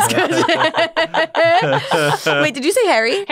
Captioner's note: all laughing